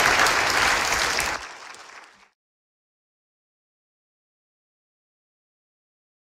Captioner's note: Аплодисменти